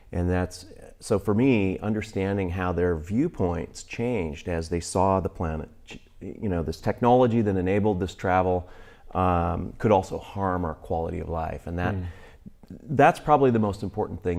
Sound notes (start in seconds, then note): none